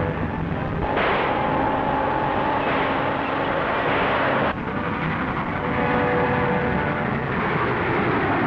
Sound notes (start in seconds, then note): 0.8 gun firing; 4.9 engine chuffing